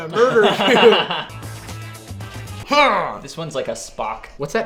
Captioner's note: giggles